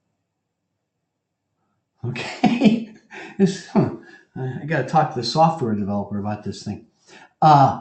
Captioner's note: laugh